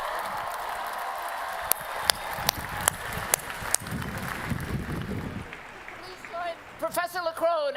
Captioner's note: applause